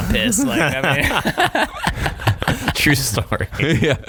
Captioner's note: laughing